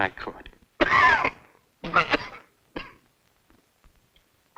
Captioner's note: Mr. Bradford coughing